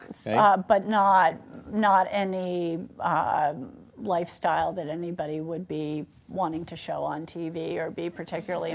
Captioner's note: laughter